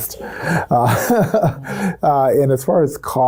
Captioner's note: laughs